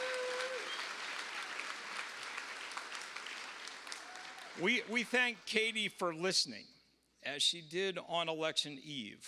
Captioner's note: cheers and applause